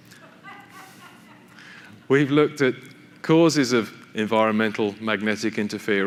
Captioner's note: laughter from audience